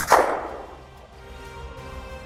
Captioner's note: gunshot